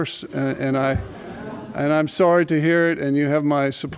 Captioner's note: laughter